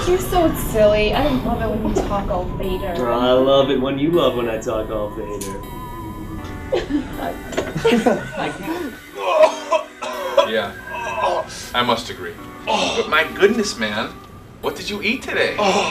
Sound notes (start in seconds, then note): 8.9 puking noise